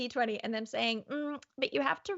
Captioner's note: hums softly